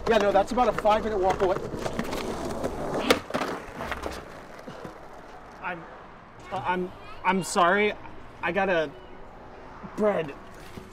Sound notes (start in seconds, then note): 1.9 skateboard rolling